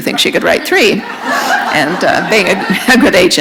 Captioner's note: laughter